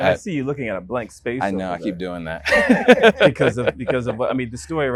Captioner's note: laughs